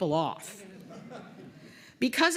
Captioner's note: laughter